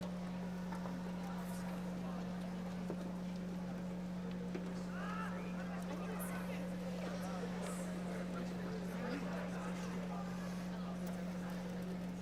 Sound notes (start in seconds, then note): 5.4 audience chattering